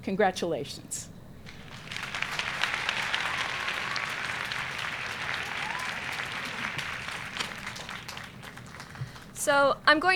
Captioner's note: applause